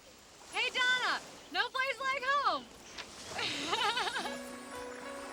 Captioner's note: laughs; dramatic music